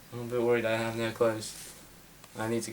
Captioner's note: none